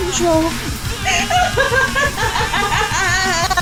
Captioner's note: dying Laughter